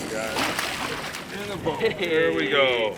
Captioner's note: fish splashing